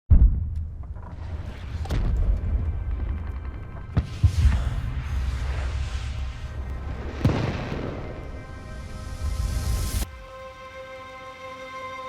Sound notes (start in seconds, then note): 0.0 distant shelling; 2.7 distant rapid gunfire; 4.3 exhales; 7.1 tense music playing